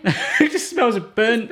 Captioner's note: laughing